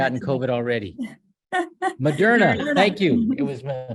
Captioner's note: laughs